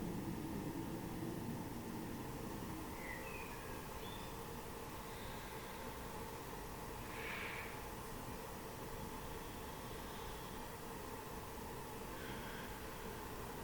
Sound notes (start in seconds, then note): 2.8 birds singing